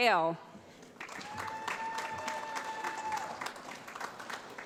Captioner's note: applause